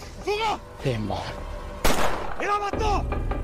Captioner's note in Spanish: Disparo